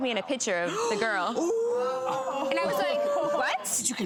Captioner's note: everyone gasps